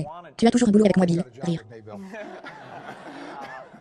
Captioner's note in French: rire